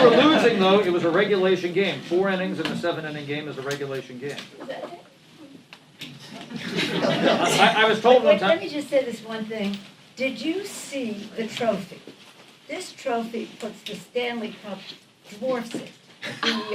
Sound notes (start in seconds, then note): 6.3 laughter; 10.9 laughter